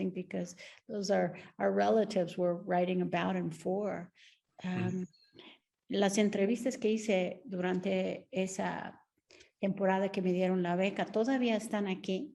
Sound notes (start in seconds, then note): 6.0 Sandra speaking Spanish